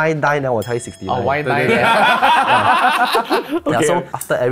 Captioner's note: laughs